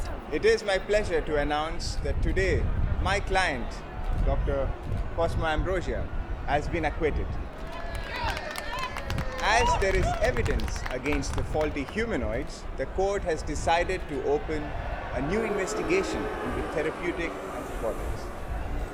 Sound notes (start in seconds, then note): 7.5 applause and cheering; 14.8 crowd